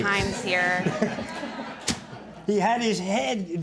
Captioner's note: audience chuckling